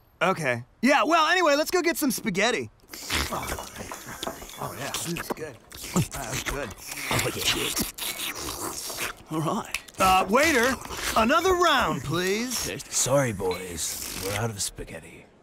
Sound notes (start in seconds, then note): 2.7 eating Sounds